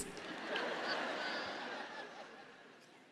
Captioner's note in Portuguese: audiência ri